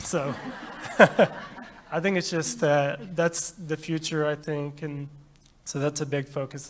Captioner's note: laughter